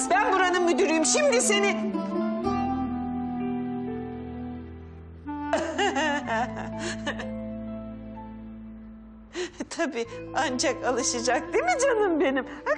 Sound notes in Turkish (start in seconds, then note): 5.5 Gülüyor